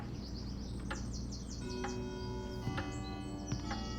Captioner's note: clock chimes